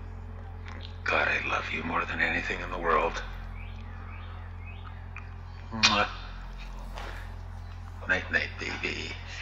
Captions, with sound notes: God, I love you more than anything in the world. (kissing sound) Night night, baby.